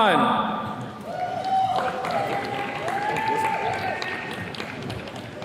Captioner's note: attendees cheering